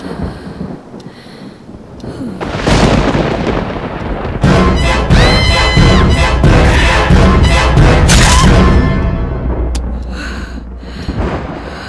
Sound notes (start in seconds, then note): 2.0 sighing; 5.1 screaming